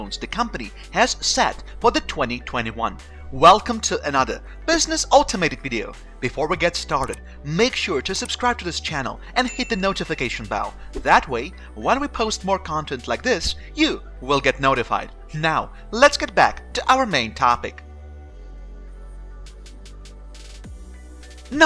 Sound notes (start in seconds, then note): 7.0 mouse clicking; 9.4 bell ringing; 18.2 gentle music